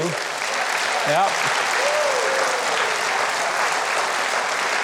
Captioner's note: loud clapping